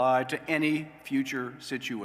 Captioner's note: none